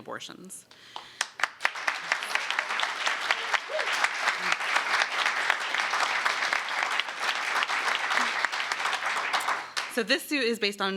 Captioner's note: applause